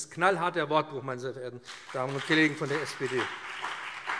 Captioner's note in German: Beifall BÜNDNIS 90/DIE GRÜNEN und CDU